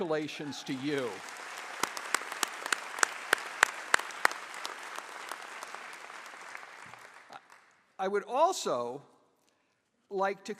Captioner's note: applause